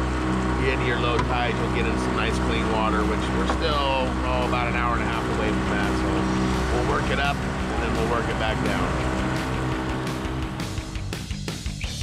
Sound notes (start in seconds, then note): 7.7 boat engine running